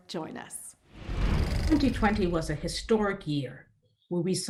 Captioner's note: whooshing